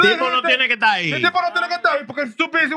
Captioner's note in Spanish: Hablando en idioma extranjero